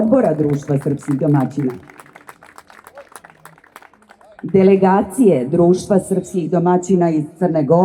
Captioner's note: applause